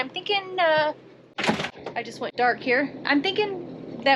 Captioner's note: door slamming